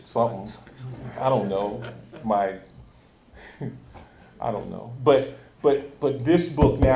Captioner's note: chuckles